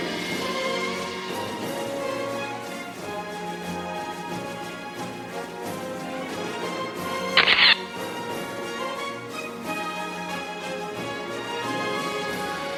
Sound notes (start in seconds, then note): 0.0 audience applauding; 0.2 orchestral music; 7.4 camera shatters; 9.7 orchestral music